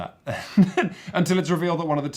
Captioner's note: laughs